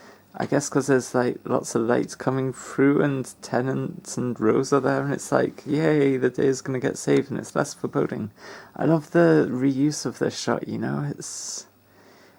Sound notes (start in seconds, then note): none